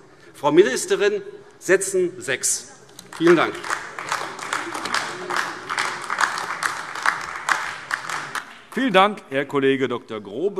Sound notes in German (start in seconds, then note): 3.0 Beifall AfD